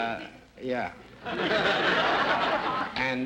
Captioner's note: audience laughter